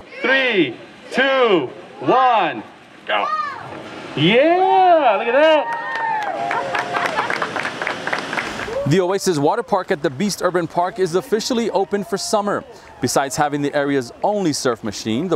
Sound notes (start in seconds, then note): 5.8 crowd cheering